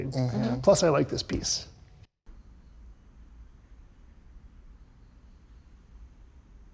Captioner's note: insects chirping